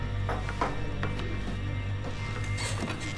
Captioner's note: chair creaks